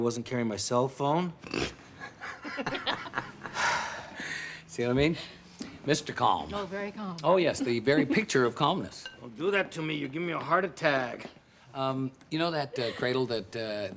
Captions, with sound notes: To ask me why I wasn't carrying my cell phone? (both laugh) (Joe sighs) - See what I mean? Mr. Calm. - Oh, very calm. - Oh, yes. The very picture of calmness. - Don't do that to me. You'll give me a heart attack. - Um, you know that, uh, cradle that, uh,